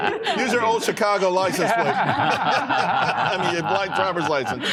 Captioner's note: laughter